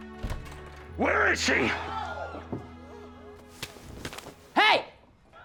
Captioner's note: women screaming